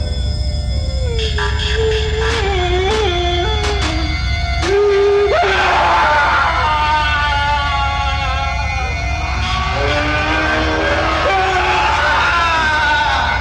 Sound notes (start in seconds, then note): 1.1 Casey crying; 4.8 Casey screaming